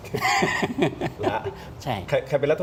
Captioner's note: laughter